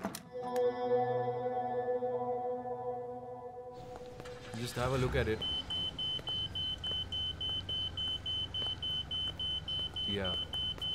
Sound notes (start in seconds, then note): 4.8 scanner beeps